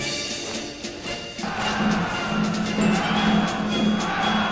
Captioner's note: military music; soldiers cheering